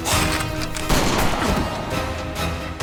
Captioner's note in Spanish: Disparo